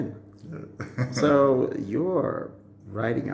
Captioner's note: chuckles